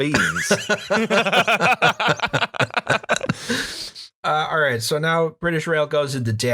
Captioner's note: laughter